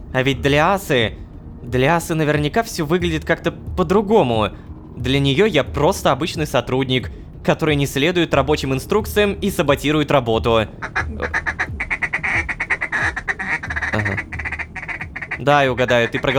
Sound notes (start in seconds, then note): 10.7 goose in panic